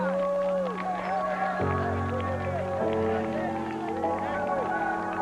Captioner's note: cheers and applause